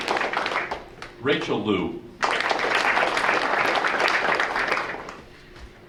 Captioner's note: audience applauding; audience applauding